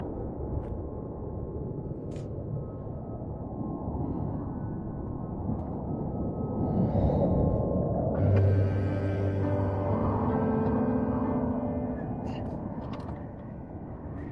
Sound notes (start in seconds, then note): 8.1 gentle music; 9.1 Asher groaning